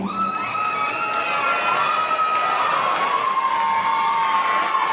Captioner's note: audience applauding